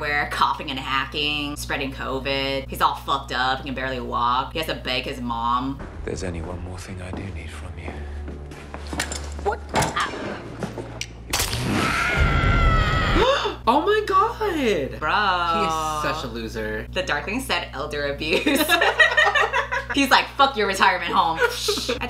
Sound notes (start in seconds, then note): 11.6 screams; 13.7 gasp